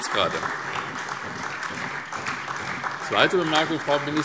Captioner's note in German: Beifall SPD